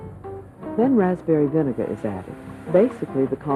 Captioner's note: voiceover